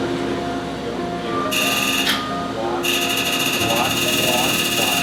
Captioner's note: laser sounds